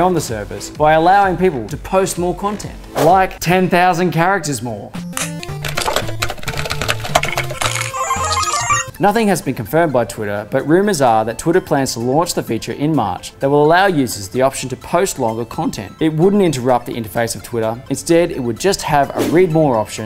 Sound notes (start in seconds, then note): 4.9 electronic video game music; 5.2 rapid clicking